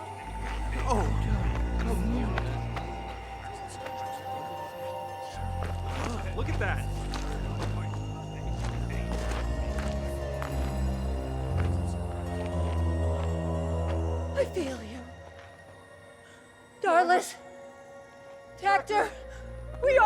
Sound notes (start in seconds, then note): 1.1 eerie music continues; 3.9 soldiers murmuring; 9.3 soldiers murmuring